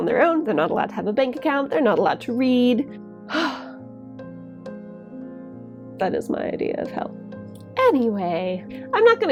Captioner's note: huffs